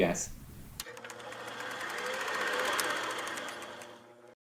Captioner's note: photo reel spooling